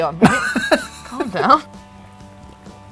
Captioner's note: laughs